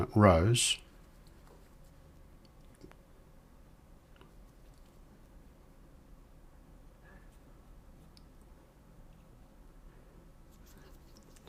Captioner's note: silence